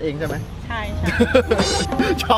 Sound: laughs

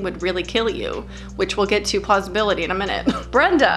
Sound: chuckles

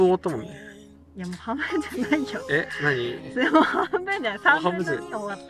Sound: laughs

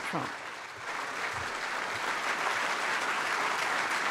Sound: applause

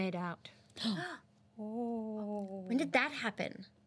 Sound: girls gasp

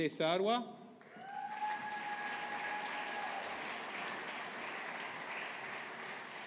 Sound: audience applauding

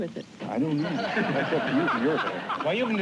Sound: laughter

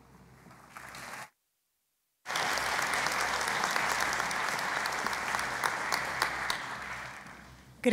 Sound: applause

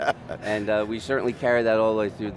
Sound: laughing

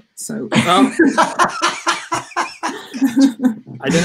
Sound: laughing

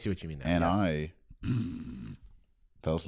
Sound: snoring

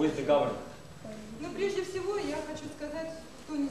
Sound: non-english speech

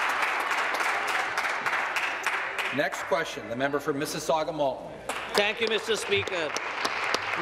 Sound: applause

